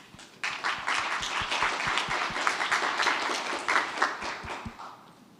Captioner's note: audience applauds